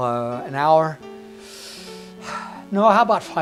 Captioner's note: sigh